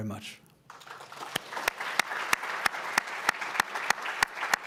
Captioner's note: everyone applauds